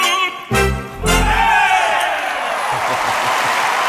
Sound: chorus cheers; audience applauds

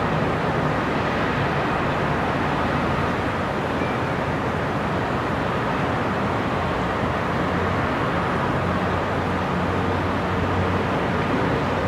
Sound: sound of distant cars and city noises

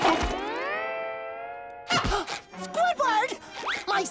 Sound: gasping

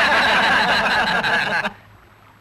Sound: laughs

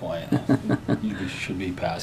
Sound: laughter

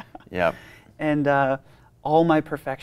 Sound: laughs

